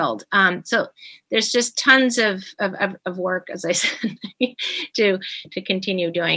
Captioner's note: chuckling